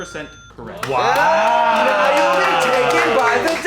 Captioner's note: movers cheering